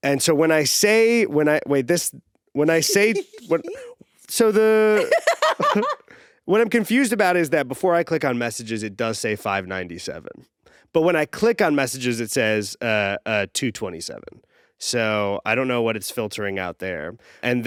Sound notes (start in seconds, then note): 4.9 laughing